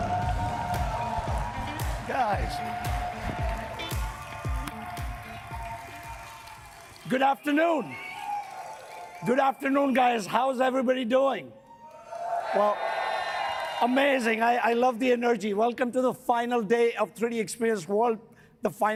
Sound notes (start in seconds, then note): 0.2 audience cheering and clapping; 11.8 audience cheering